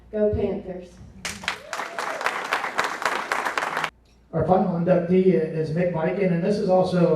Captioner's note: applause